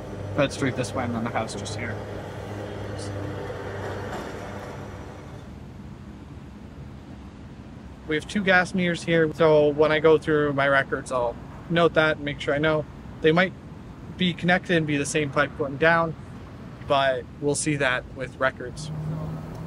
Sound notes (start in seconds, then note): 5.0 traffic humming in the background